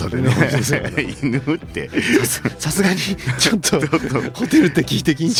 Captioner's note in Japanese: 笑い